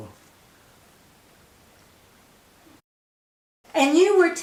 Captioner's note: silence